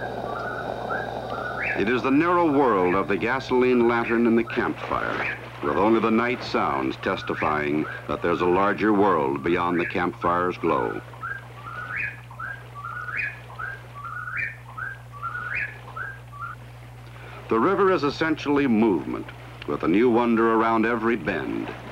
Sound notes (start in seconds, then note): 11.9 night sounds